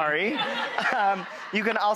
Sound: audience laughs

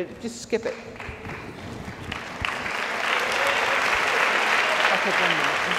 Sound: audience applauds

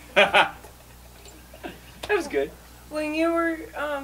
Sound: laughing

